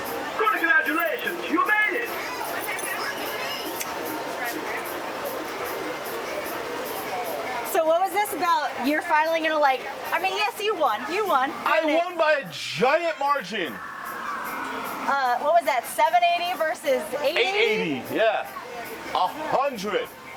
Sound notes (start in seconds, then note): 0.8 machine Voice